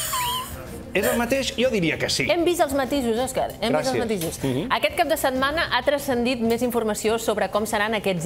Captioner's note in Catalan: veu aguda